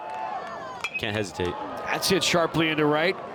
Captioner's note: bat dings